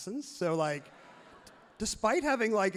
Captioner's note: crowd laughs happily